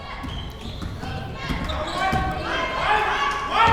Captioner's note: crowd members chanting; crowd members shouting